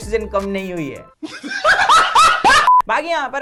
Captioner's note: laughs